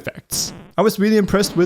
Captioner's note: explosion sound